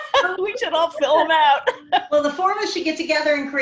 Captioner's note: laughs